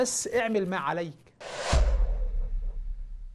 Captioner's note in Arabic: مُؤَثِّرَات صَوْتِيَّة